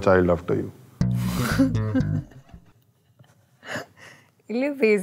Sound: laughs

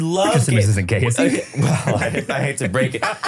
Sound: laughing

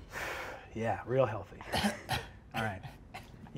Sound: coughs

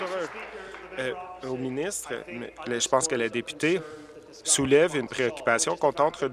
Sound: applause

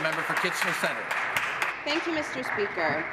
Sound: applause

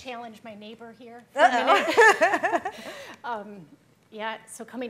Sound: laughing

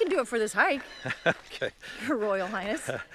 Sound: laughs

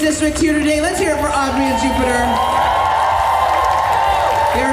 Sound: cheers

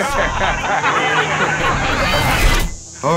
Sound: laughing

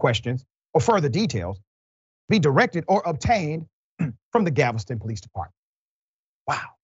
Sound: cough

